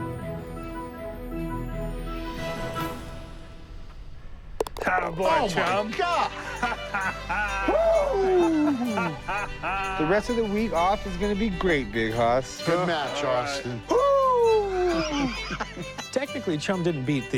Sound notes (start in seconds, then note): 4.8 laughs; 14.6 laughter